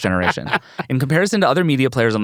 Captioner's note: laughs